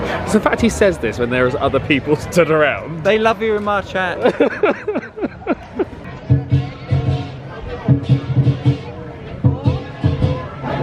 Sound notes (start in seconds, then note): 4.2 laughing; 6.0 instrumental music